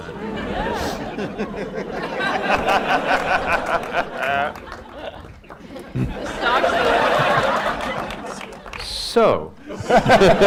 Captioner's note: laughter